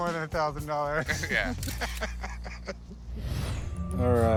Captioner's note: both laughing